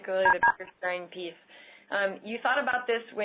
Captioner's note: audio interference